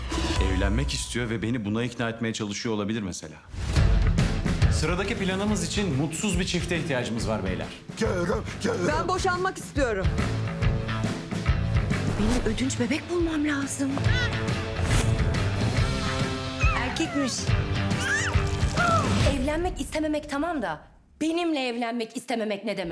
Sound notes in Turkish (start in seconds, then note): 14.0 bebek sesleri; 16.4 bebek bağırır